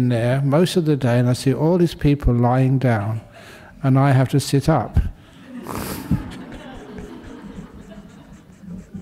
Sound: laughter

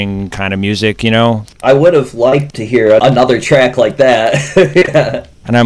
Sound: laughs

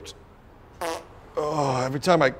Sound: passing gas

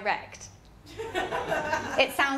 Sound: laughter

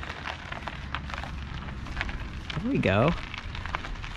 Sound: gravel crunching

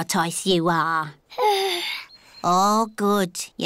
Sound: yawns

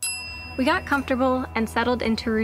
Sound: bell ringing

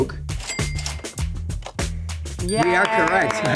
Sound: cash register dings

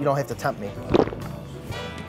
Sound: swallowing sound effect

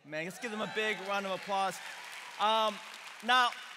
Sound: congregation cheering

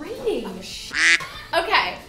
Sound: quacking

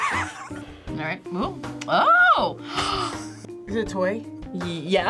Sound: laughs; gasps

